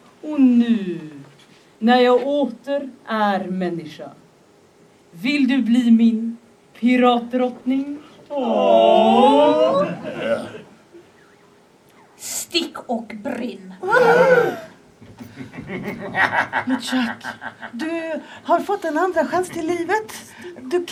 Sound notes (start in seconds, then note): 13.7 crew gasps